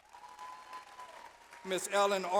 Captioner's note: audience applauds